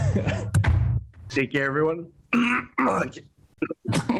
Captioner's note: coughs